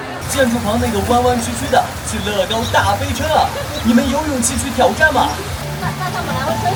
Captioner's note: rain pouring down as soon as you board